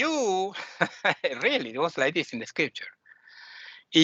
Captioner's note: laughing